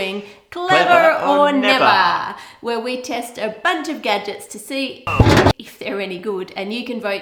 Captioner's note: bang